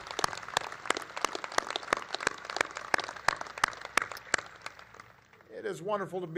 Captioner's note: applause